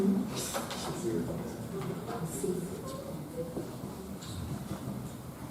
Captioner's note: attendees chattering